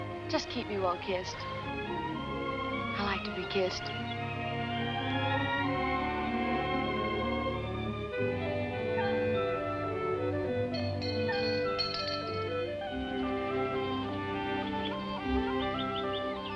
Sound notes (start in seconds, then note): 8.5 whimsical orchestral music; 10.7 bell dinging